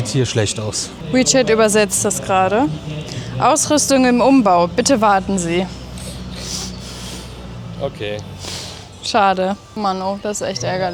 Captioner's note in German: schnauben